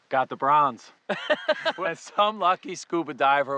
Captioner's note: laughing